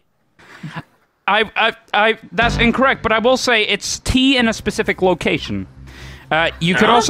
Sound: stutters

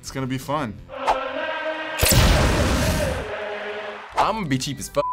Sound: explosion

